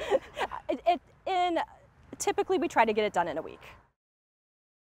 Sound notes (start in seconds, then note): 0.0 laughs